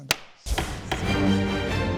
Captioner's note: gavel clinking; dramatic music